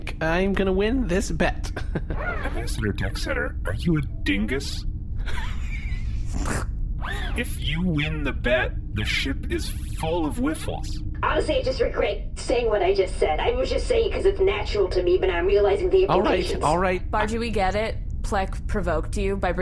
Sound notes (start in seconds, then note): 1.5 Pleck laughs smugly; 7.1 wheezy laughter